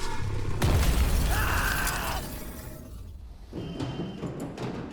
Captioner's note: screaming; alarm blaring